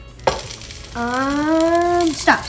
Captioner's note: chips sprinkling